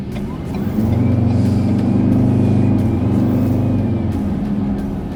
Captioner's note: car accelerating, engine revving